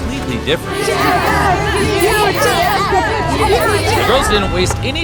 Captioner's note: chanting